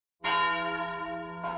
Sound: church bells tolling

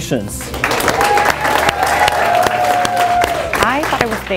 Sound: crowd cheering

